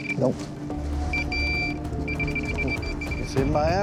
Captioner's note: rapid beeping